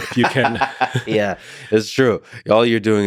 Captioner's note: Lex laughing